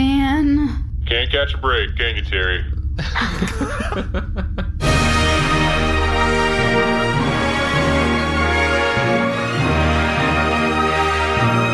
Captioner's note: laughs